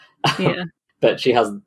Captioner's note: laughs